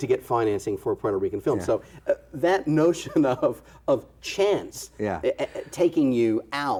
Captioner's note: chuckles